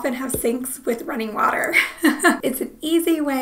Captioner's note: laughing